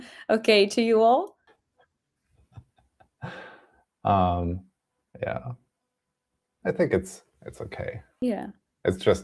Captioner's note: laughs